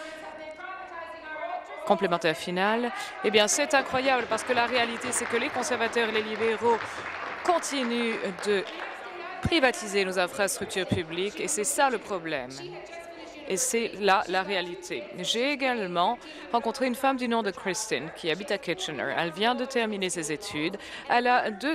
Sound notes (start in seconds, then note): 10.6 applause